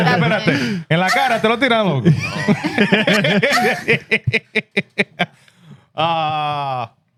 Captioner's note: speaking Spanish; laughter